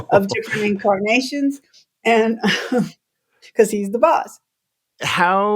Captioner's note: laughter